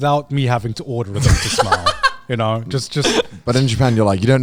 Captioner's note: laughs